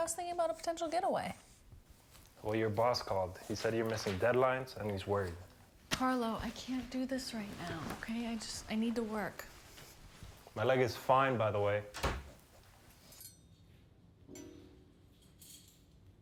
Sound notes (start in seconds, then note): 11.8 door closes; 14.4 utensils clinking